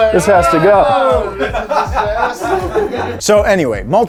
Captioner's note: laughing